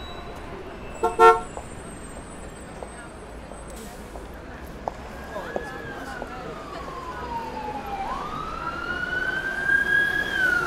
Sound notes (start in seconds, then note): 1.0 vehicle horn honks twice